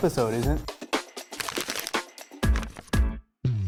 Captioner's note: paper sounds; funky music